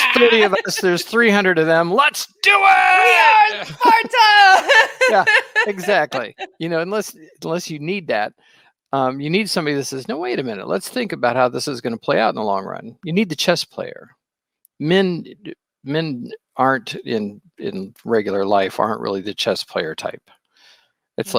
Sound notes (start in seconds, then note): 4.8 laughing